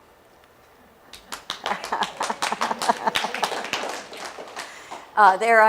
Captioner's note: laughing; applause